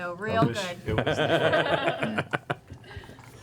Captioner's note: laughter